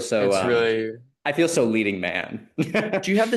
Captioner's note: laughs